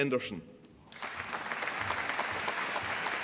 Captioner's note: applause